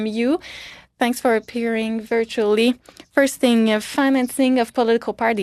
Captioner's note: speaking French